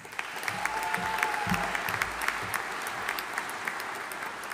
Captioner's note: audience applauding